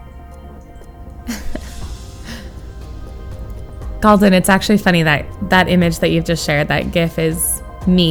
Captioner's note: laughs